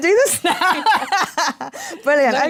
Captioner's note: laughter